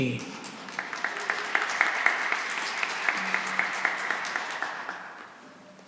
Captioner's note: applause